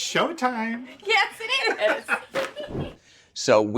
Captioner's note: mickey deane laughing